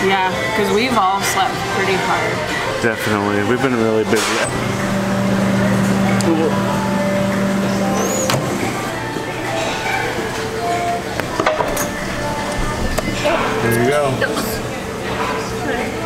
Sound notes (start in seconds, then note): 7.9 door closes; 11.6 utensils clatter